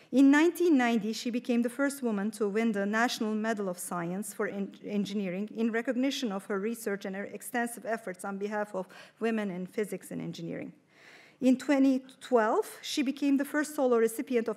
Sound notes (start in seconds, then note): none